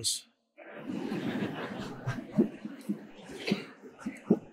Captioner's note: laughing